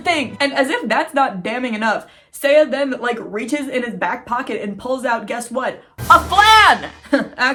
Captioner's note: dramatic sound effect